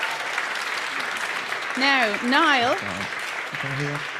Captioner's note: applause